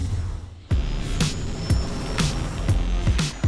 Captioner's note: ship engine roaring